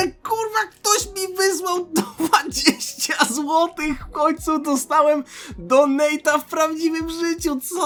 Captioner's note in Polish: śmiech